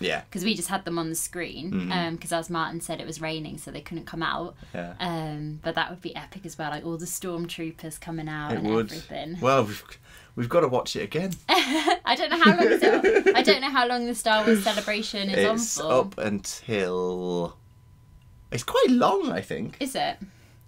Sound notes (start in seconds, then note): 12.3 laughs